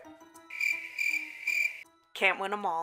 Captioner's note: crickets